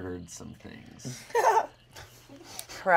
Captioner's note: laughs